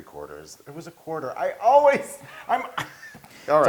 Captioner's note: laugh